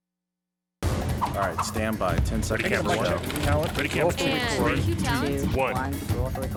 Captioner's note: control room chatter